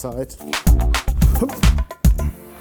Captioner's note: moaning